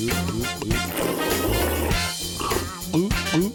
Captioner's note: gulping; energetic music